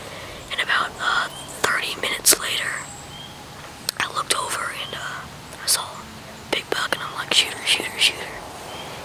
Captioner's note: whispering